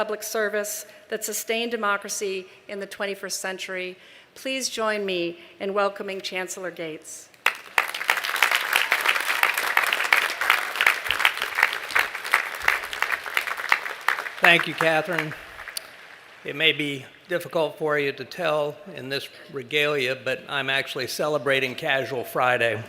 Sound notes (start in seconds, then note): 7.4 applause